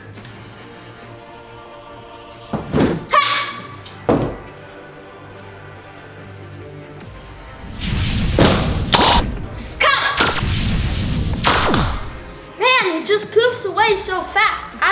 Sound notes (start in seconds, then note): 7.6 whooshing